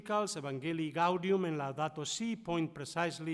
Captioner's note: speaking foreign language